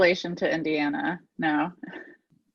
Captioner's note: chuckles